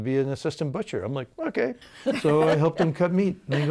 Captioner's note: laughing